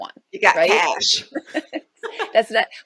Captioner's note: both chuckles